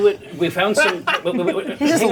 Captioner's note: player laughing